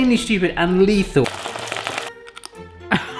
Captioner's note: crunching; oil frying